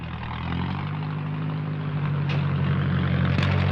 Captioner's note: engine rumbling